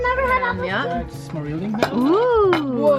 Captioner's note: speaks German